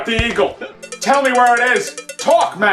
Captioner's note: cow bell rattling